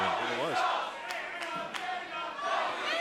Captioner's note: crowd cheering